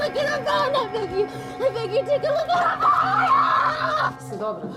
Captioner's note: screaming